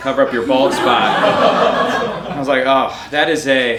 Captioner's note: audience laughing